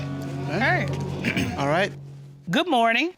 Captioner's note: clears throat